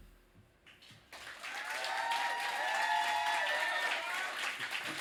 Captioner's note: applause